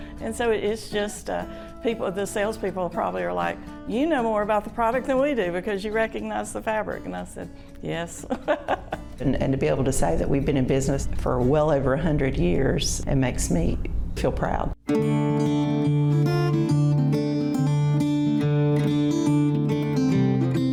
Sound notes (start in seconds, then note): 8.3 laughs; 14.1 bright acoustic music